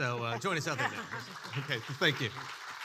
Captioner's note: audience clapping